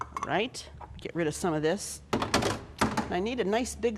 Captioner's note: thud